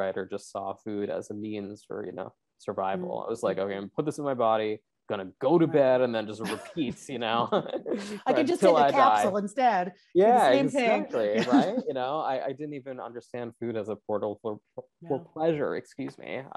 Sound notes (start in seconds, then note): 7.4 both laugh